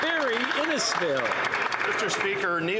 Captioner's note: some Applause